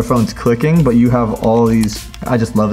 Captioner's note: buttons clicking